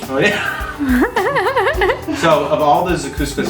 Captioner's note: laughs